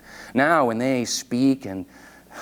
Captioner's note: none